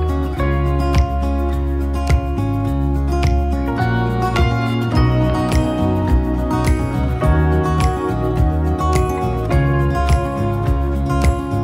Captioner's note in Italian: Applauso